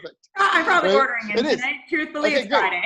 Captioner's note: chuckles